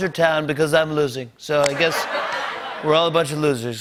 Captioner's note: laughter